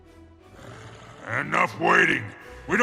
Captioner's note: growl